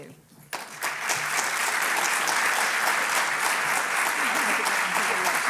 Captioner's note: applause